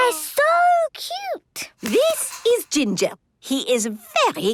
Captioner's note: squeaking